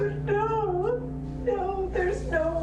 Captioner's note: crying